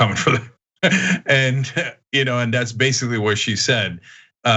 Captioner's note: laugh